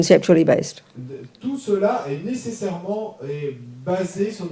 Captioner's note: audience member speaks in French